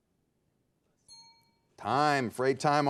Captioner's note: timer pinging